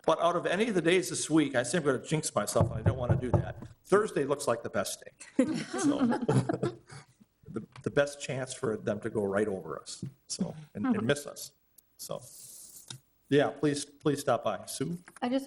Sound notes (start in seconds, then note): 5.3 all chuckling